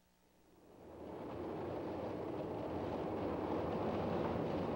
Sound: train passing

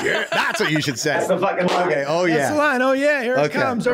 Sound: clapping

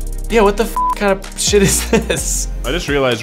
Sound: beep

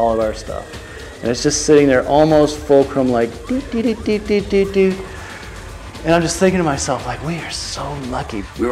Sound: tipping noise

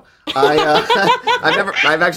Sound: they laugh

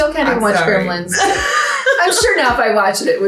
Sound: laughs

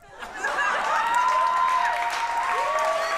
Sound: laughter; cheers and applause

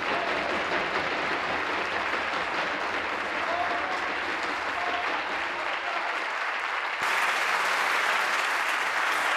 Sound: applause; voice trailing

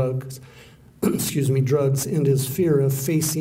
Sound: clearing throat

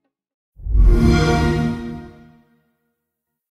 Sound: xbox sound

